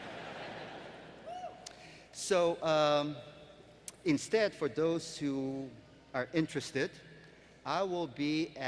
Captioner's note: laughter